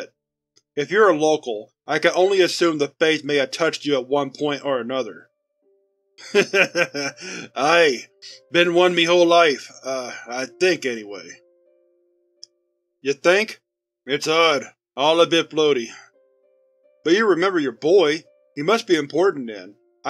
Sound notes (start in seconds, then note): 6.2 Mr. Doe chuckles